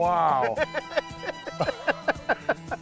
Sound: laughter

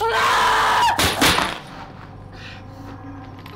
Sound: screams Loudly

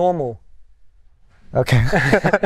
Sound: laughter

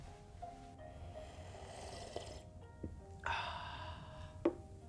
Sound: slurps and exhales

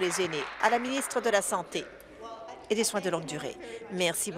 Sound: applause

